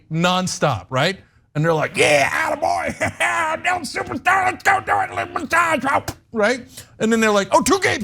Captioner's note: laugh